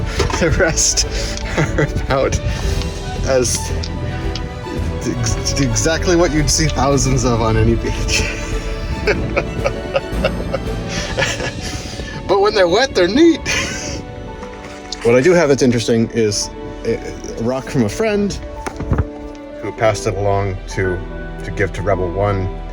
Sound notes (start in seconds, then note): 8.2 laughter